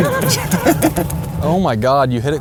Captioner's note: laughing